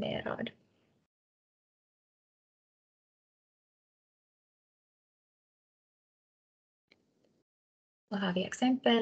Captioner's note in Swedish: Tystnad